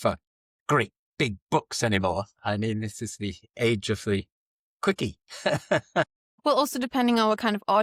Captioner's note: laughs